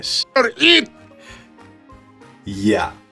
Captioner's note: deep inhale